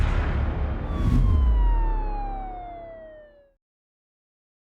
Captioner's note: siren wailing